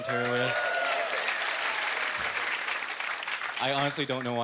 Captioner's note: applauding